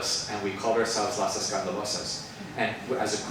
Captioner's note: speaks Spanish